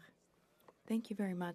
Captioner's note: speaking French